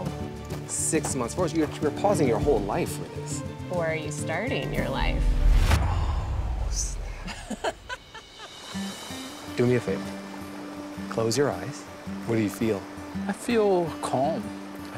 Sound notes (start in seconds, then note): 7.2 laughing; 8.5 rustic music